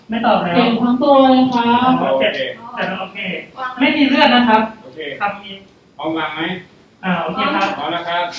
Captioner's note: simulated patient voice